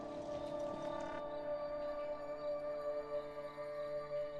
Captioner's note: crickets chirping